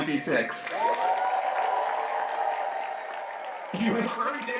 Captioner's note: cheers, applause